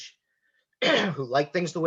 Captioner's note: clears throat